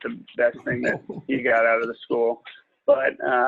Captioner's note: people chuckling